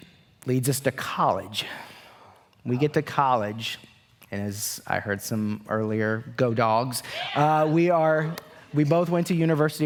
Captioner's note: cheers